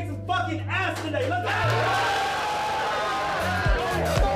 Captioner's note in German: Jubel, Durcheinanderrufen